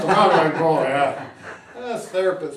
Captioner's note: laughs